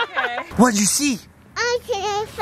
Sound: laughing

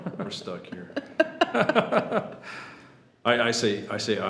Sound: trustees laugh

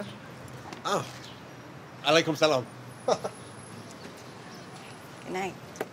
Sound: laughs

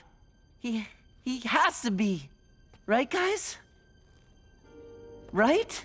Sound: none

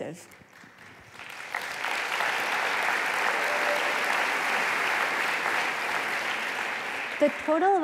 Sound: applause

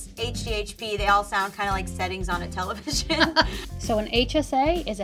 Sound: laughs

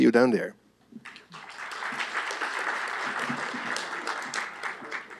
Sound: applause

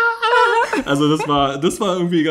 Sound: laughs

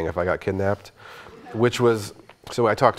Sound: audience chuckling

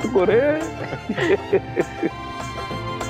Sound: laughing

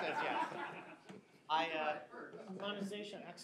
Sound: laughter

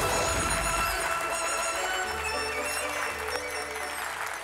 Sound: clapping

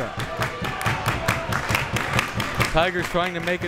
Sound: crowd members clapping

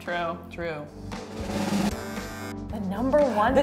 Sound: drum roll; buzz

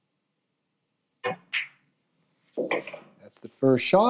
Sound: balls clanging

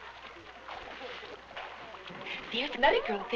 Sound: water splashing

